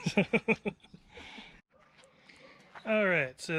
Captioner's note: laughs